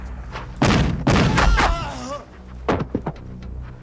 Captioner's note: gunshots booming; man groaning; ominous music